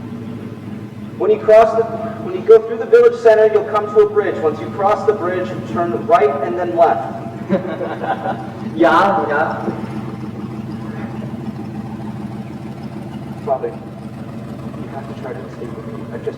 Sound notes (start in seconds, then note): 0.1 truck motor sounds; 3.7 truck motor sounds; 6.6 truck motor sounds; 7.5 Nazi guards laugh; 7.5 truck motor sounds; 9.9 truck motor sounds; 15.4 truck motor sounds